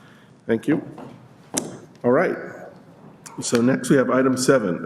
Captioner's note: chorus of ayes